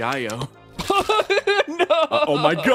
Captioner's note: laugh